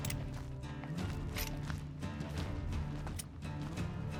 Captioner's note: gun clicking